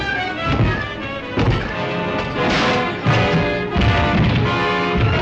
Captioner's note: fists pounding